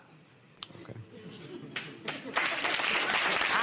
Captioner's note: applause